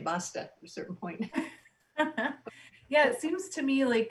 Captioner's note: loud laughs